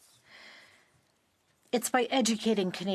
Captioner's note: speaking French